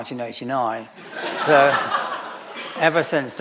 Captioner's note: audience laughing